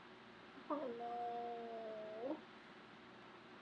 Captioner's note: groans